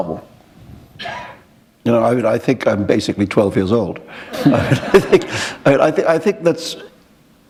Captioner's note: laughter